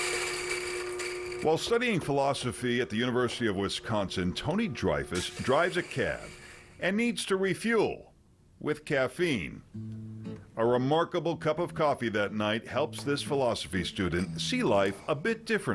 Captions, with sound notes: (coffee grinder whirs) While studying philosophy at the University of Wisconsin, Tony Dreyfus drives a cab and needs to refuel with caffeine. A remarkable cup of coffee that night, helps this philosophy student